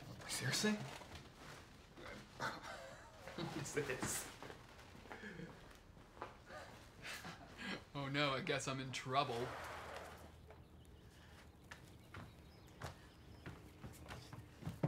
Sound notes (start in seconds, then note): 2.3 Eric laughs; 10.4 birds singing